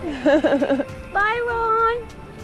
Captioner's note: laughing